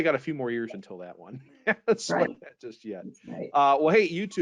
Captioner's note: laughs